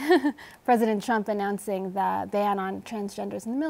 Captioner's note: laughs